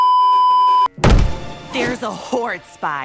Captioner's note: beeeeeep; aggressive table slam